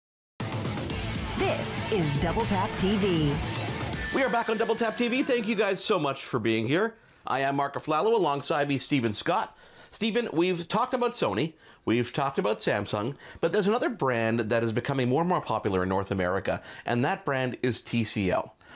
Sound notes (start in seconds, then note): 0.4 inspirational music; 1.4 voiceover